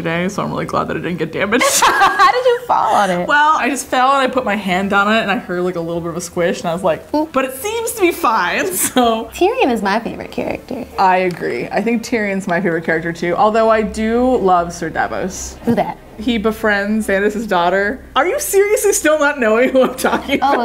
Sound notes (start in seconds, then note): 1.6 laughing